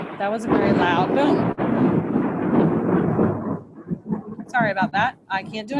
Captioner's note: thunder